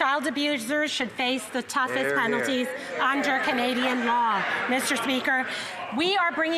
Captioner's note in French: voix de l'interprète